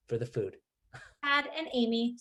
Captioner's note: Chad laughing